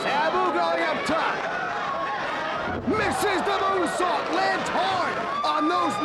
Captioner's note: presenter speaking faintly off mic